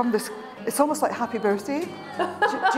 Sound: laughter

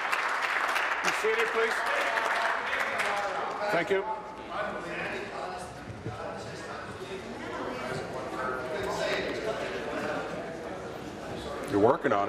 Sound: applause

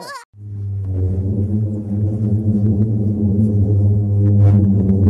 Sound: child giggles; low frequency humming

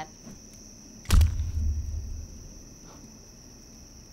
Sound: banana splats

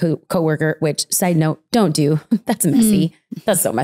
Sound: laughs

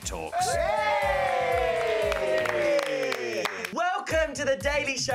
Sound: cheering

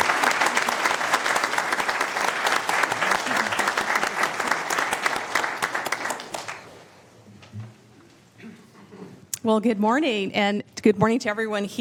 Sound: applause

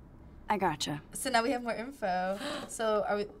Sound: gasping

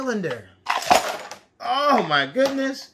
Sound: banging

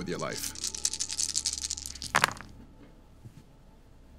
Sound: dice rolling

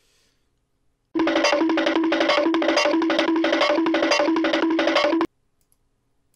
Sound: cartoon running sound

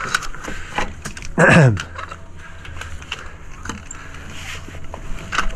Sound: clearing throat

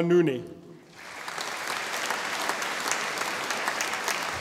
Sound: audience applauding

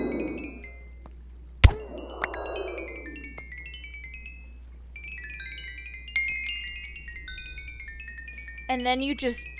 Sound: guardians take damage, xp sounds

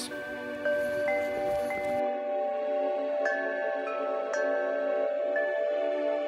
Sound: windchimes

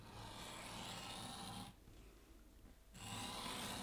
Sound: paper scratching

